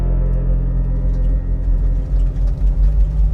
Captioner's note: low rumble of military transports